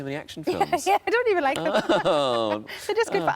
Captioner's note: laughs